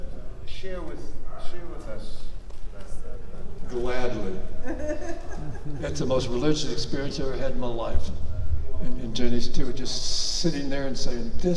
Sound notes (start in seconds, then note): 4.5 laughs